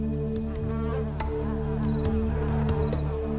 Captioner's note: buzzing intensifies